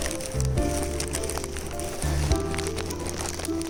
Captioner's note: shopping bag noises